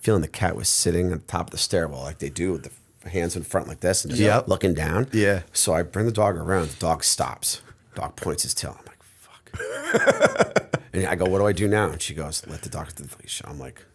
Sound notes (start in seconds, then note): 9.6 laughter